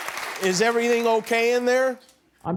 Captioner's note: applause